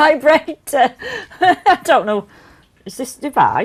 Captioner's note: laughs